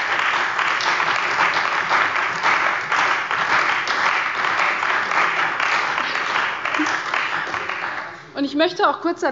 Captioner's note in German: Beifall bei der CDU und dem BÜNDNIS 90/DIE GRÜNEN